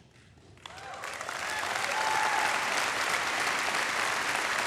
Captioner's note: audience applauding